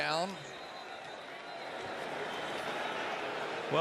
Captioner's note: whistle